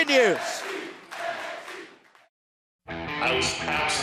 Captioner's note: crowd cheering